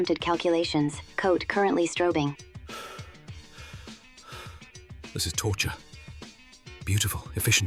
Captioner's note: breathing heavily